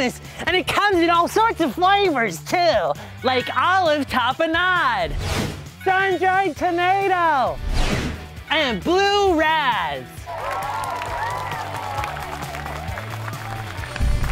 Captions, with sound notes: and it comes in all sorts of flavors too. Like olive tapenade, sun-dried tomato, and blue razz! (crowd cheers)